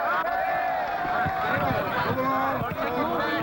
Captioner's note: police sirens wailing; people shouting